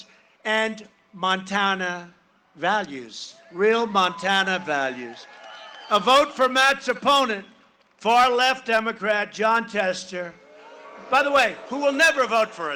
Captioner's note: cheering and applause